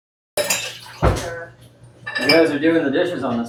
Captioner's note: disgusting wet sounds